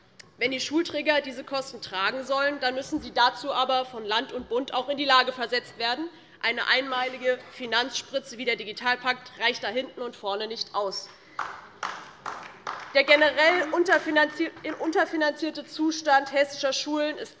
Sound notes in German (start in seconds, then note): 11.3 Beifall DIE LINKE